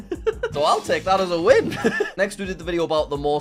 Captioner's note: laughs